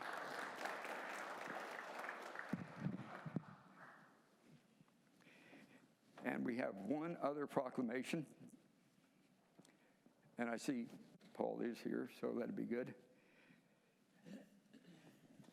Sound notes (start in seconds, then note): 3.0 applause